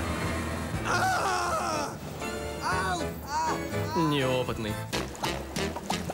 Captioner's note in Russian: кричит